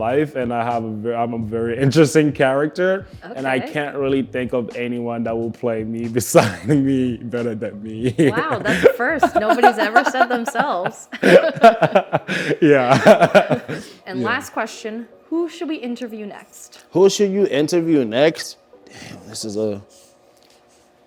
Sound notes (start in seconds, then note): 8.0 laughs; 11.3 both laugh